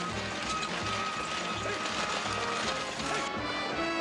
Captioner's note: driver shouting to horses